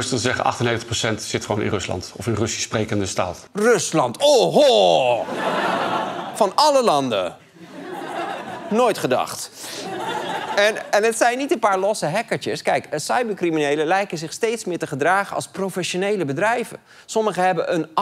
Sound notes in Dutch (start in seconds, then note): 10.4 gelach